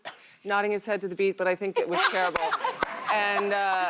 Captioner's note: laughter